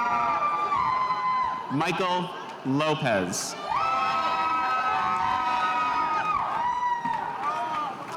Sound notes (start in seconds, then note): 3.8 spectators cheering